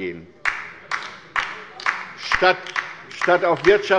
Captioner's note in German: Beifall bei der LINKEN